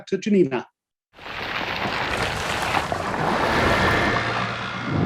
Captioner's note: rustling